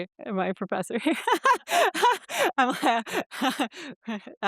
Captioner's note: laughs